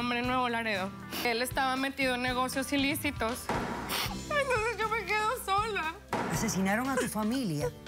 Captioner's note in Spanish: sollozos